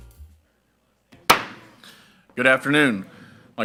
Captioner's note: gavel bangs